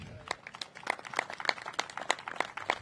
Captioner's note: applause